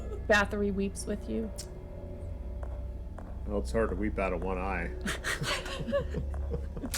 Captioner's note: laughs